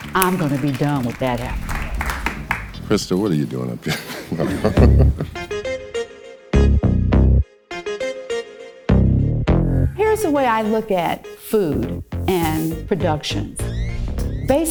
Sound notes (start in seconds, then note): 3.8 chuckles; 4.5 upbeat music